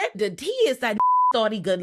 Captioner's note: beep